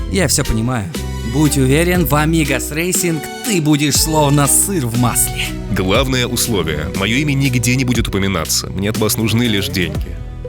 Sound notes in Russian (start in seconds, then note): none